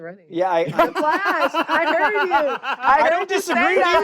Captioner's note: laughs